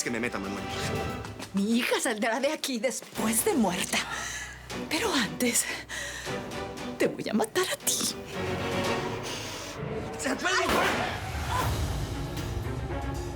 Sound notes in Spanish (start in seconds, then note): 10.6 Disparo